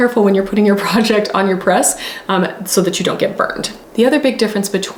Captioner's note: none